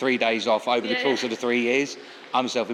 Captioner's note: laughs